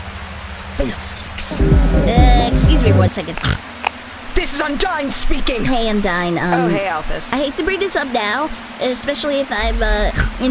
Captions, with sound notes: Fiddlesticks.... Uh, excuse me, one second. *snort* This is Undyne speaking. Hey Undyne, um- Oh hey Alphys. I hate to bring this up now, especially if I'm uh *SNORT*